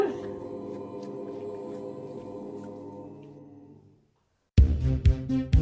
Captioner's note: scary sound